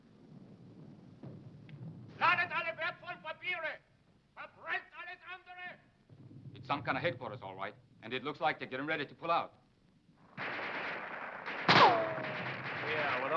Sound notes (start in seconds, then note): 2.4 shouting in foreign language; 10.3 guns firing